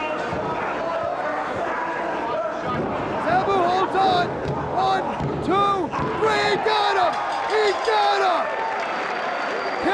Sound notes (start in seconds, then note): 7.1 bell ringing; 8.4 spectators cheering and applauding